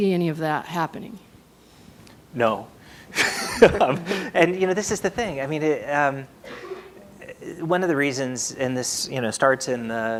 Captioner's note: laughter